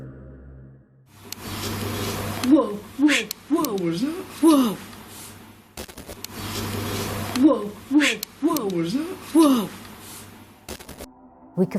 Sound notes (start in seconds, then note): 1.3 groaning sound; 5.6 static; 6.5 groaning sound